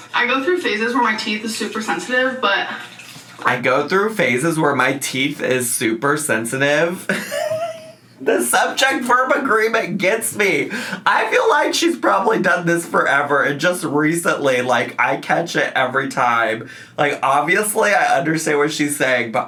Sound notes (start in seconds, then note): 7.0 laughs